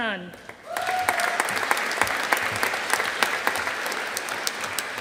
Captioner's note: audience applauding